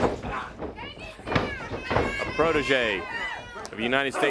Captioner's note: crowd cheering